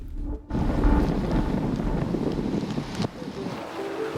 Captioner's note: wind whipping